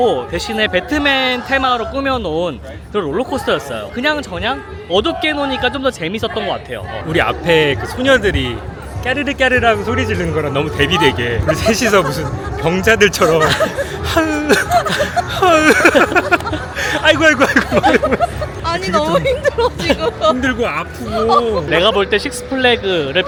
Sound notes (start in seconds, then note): 11.4 the three of us groaned whenever the vehicle moved violently